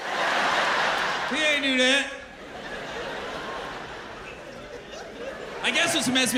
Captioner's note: laughter